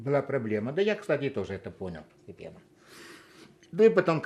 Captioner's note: sniffling